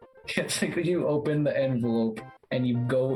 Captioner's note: chuckling